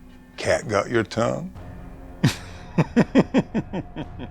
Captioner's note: chuckling